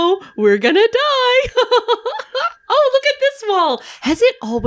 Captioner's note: giggles